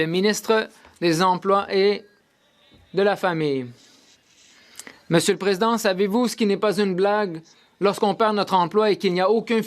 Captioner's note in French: voix de l'interprète